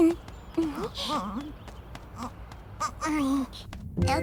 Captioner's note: laughs; hesitant grunting